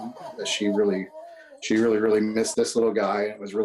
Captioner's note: laughter